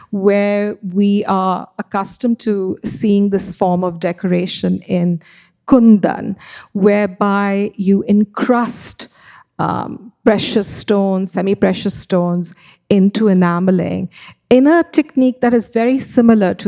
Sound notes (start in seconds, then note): none